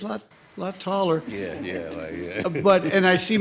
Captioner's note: laughs